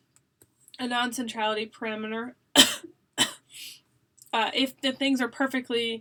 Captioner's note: coughs